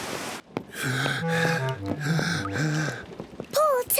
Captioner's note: breathes heavily